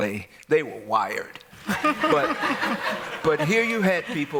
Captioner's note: laughter